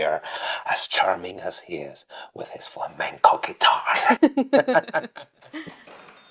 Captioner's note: giggles